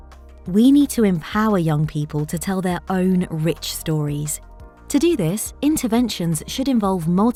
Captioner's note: automated Narration